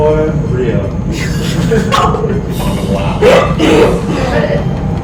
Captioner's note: laughing